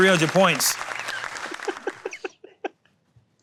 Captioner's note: applause